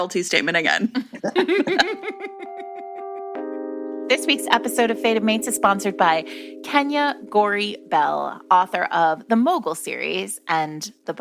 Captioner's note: laughter